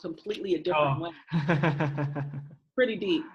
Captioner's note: laughs